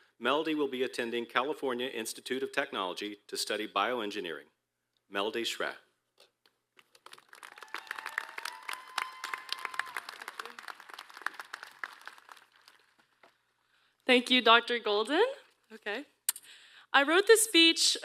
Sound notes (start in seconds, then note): 6.8 applause